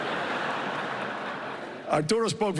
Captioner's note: laughter